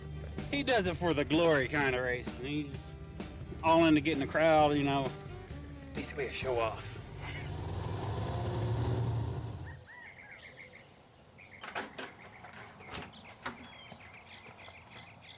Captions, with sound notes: He does it for the glory kinda racing. He's all into getting the crowd. You know, basically a show off. (engines revving) (crickets chirping) (door opening)